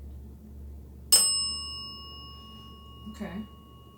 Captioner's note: bell dings